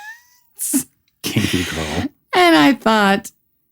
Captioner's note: laughter